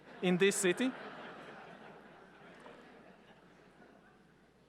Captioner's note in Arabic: الجمهور يضحك